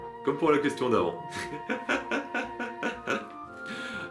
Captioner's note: laughs